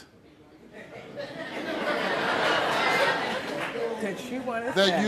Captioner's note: audience laughing